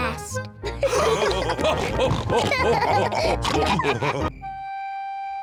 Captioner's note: all laughing